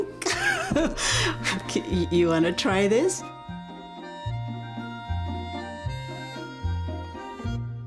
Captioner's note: softly laughs; light whimsical music